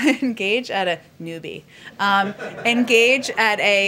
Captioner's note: laughter